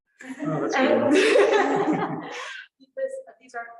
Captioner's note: laughter